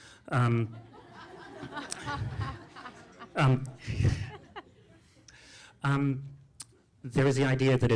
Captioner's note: laughter